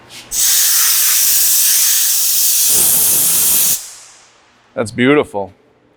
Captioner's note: air blowing noise